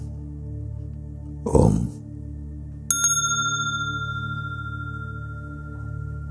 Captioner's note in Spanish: Mooji toca la campana